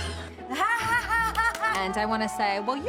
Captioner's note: laughing maniacally